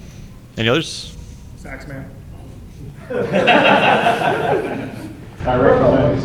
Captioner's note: chuckles